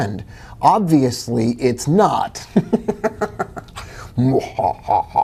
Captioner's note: giggling; maniacal laugh